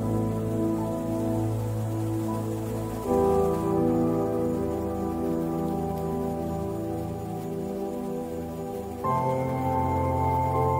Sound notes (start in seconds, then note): none